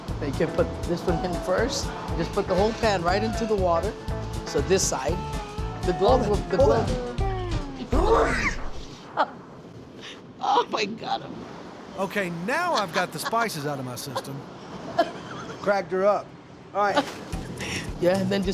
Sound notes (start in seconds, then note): 8.1 coughing hard; 9.1 chef laughs; 14.8 chef laughs